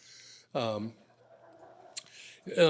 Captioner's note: laughter